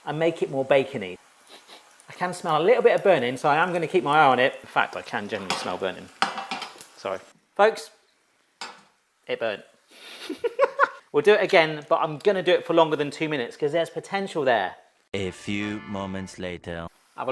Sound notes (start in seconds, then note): 1.5 sniffs; 10.0 laughs; 15.3 voiceover